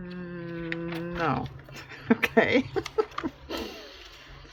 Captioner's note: laughs